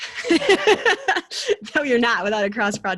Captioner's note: chuckles